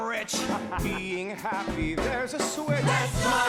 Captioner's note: laughs